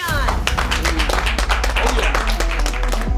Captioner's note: all applaud; light rock music